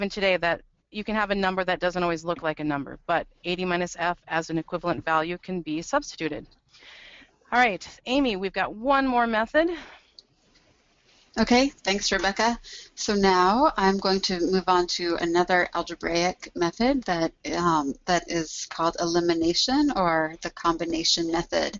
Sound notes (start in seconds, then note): 11.3 voiceover